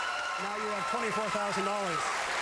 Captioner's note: cheering and applause